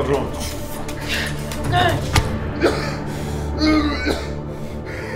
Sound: Charles grunting

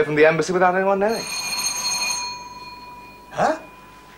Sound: doorbell

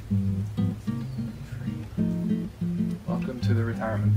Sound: whispered

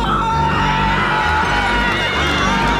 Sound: screaming

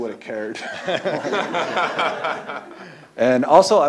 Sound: laughter

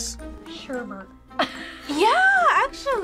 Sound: laughs

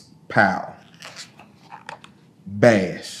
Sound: pages rustling

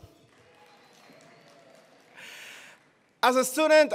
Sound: attendees applauding

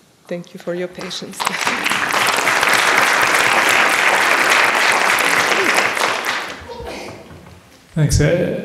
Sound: applause

